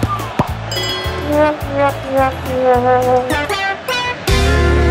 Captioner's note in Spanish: Sonido de error; Campanas; Sonido de silbato; Música Alegre